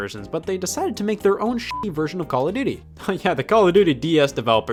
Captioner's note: beep